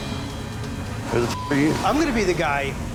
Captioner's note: beep